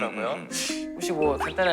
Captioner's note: inhaling